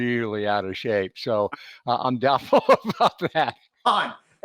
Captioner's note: laughs